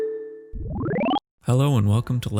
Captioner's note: technological beeps